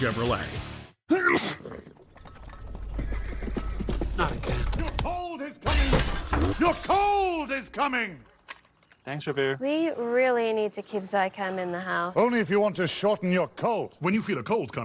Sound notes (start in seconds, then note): 1.1 sneeze; 3.7 hooves approaching